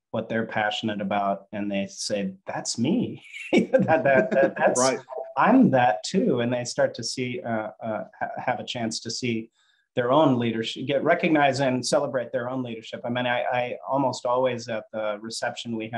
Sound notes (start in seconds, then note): 3.4 chuckling